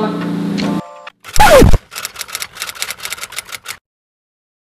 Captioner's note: record scratches